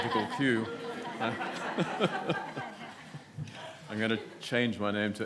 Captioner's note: audience laughs